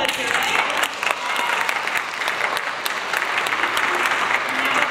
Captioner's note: audience applauds